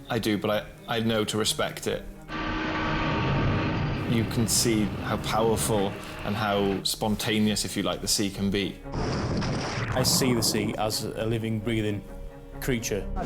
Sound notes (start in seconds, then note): 2.3 boat drones and pounds; 9.0 water splashes; 9.9 wind whooshing